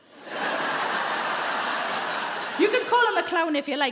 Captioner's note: audience laughing